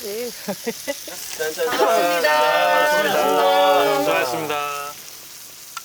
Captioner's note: cheers